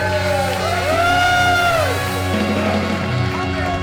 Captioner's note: audience cheers